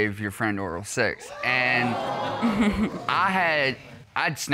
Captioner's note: chuckling